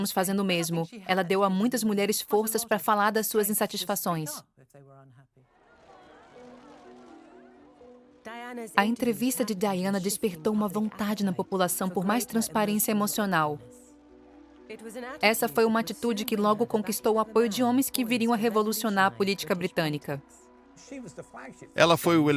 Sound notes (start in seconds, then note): 5.5 crowd cheers loudly